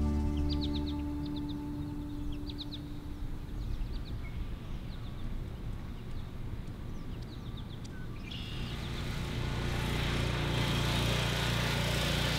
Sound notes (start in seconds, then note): 0.0 music fades out; 2.1 nature sounds; 8.2 lawn mower approaching